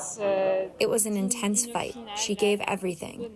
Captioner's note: through translator